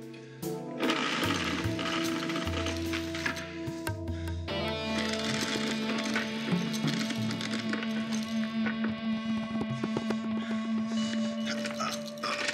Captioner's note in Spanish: ruido de las cadenas